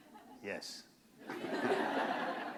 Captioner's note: laughter